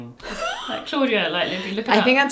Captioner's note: laughs